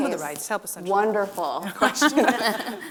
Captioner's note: laughter